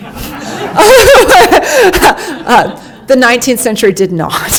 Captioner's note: laughing